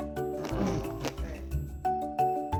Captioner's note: Crunch